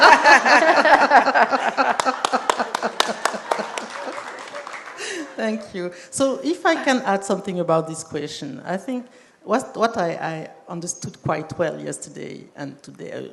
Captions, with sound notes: [APPLAUSE] Thank you. So if I can add something about this question, I think what I understood quite well today